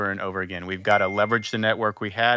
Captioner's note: bell chiming